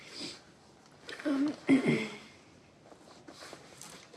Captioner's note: sniffles; clears throat